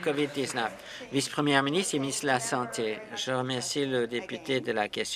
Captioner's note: applause